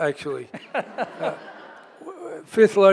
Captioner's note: audience laughs